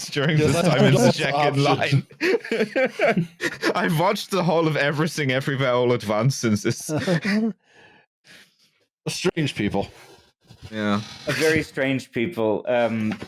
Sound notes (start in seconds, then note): 1.5 laughter; 6.6 laughing